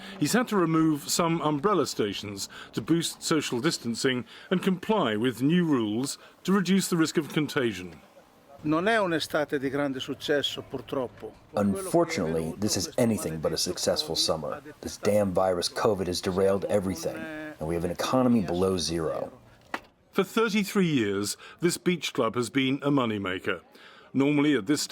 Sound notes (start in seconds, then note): 10.1 through translator